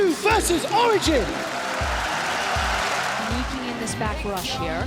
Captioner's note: crowd cheering